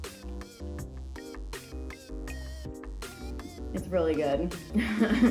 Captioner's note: laughs in relief